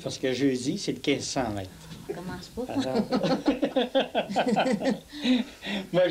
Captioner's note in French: rires